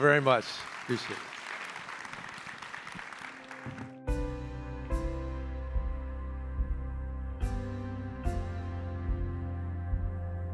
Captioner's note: applause